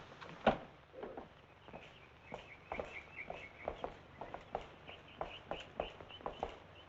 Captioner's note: footsteps thumping; birds chirping